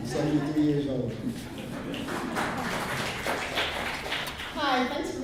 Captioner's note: audience laughs and applauds